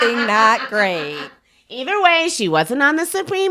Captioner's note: laughs